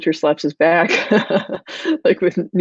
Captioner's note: laughing